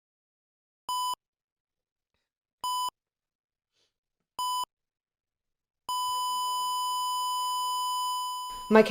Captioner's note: heart monitor beeps then flatlines